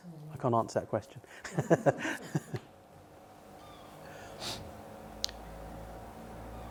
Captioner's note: laughs